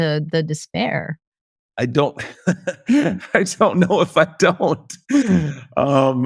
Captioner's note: laughs